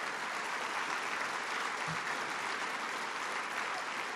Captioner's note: applause